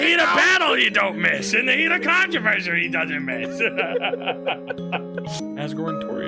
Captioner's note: laughs